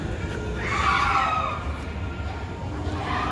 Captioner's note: screaming